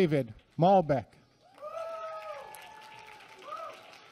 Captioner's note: applause